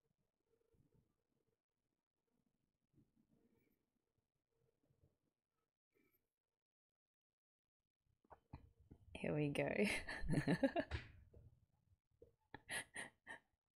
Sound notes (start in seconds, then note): 10.2 laughs